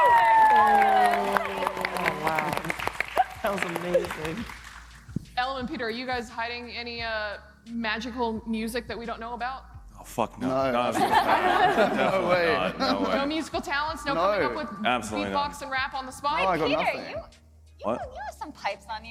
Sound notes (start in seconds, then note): 5.4 applause